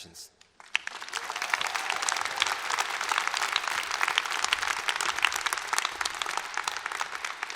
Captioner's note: applause